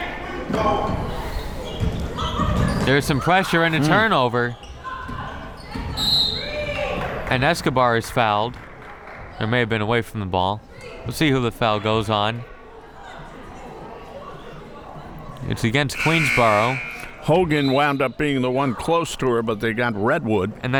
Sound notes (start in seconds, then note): 0.1 crowd members shouting; 6.0 whistle tweeting; 13.1 crowd members talking; 16.5 buzzer ringing